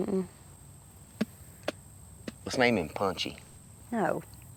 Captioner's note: spits